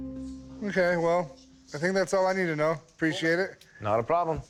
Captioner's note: none